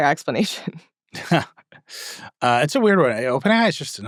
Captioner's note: scoffing